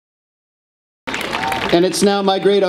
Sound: audience applause

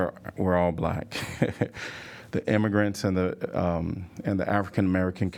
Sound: laughter

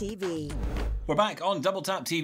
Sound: air whooshing

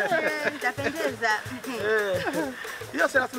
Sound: chuckles

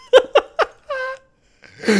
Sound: laughing

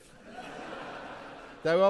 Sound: audience laughing

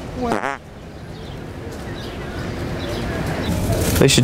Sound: farting

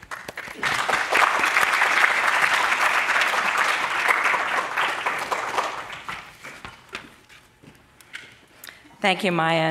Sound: applause

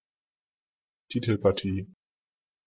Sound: fast Pronunciation

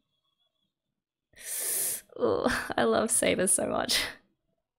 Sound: sharp inhale

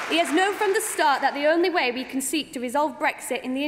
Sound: applause

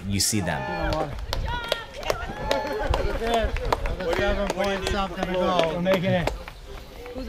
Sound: applause

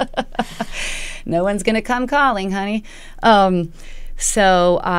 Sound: laughter

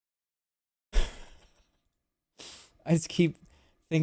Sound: chuckles

